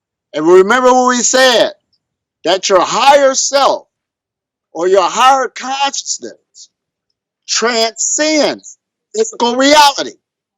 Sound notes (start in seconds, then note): none